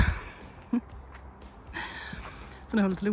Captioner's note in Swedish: skratt